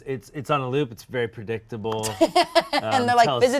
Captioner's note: laughing